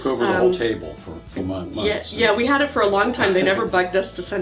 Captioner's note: pat